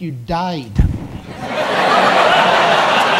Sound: audience laughs and applauses

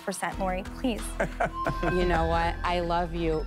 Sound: chuckles

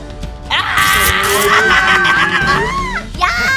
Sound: ripping noise and laughs

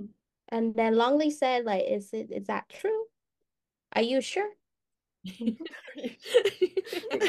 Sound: Speaking with an Isaan accent

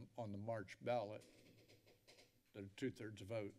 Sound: creaking sound

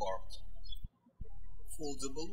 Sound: birds chirping

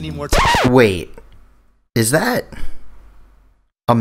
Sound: record scratch

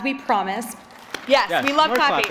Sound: applause

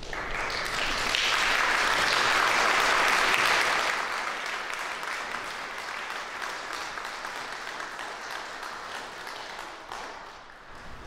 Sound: applause

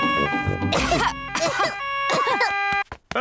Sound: all cough

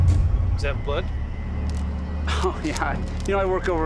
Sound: chuckles

